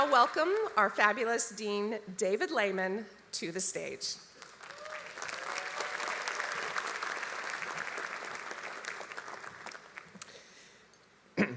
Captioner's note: applause